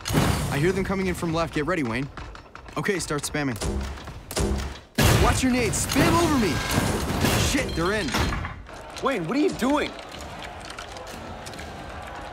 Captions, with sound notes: I hear them coming in from left, get ready Wayne! Okay, start spamming! (grenades firing) Watch your nades! Spam over me! (bombs exploding) Shit, they're in! Wayne, what are you doing?